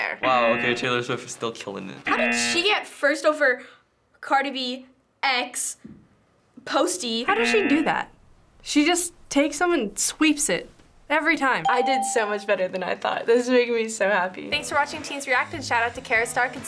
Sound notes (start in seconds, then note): 11.6 ding